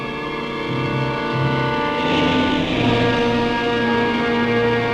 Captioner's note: horn honking